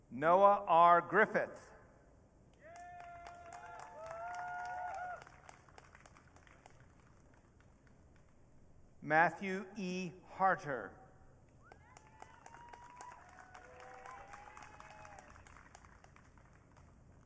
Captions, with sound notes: Noah R. Griffith. (audience cheering) Matthew E. Harter. (audience cheering)